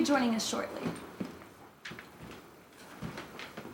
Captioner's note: footsteps